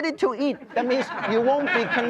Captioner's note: crowd laughing